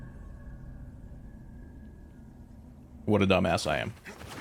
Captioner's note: silence